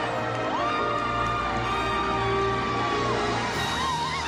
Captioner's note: crowd screaming